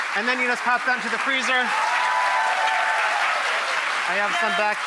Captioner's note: cheering and clapping continues